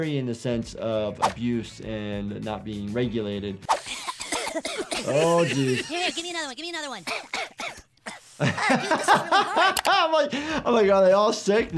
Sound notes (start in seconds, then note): 3.8 boys coughing; 7.0 cough